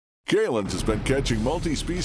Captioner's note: voiceover